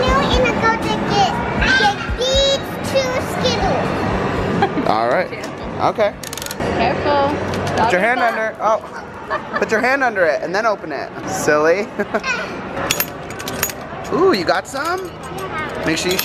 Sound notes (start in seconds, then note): 4.2 laughs; 12.1 laughs; 14.4 dispenser clinking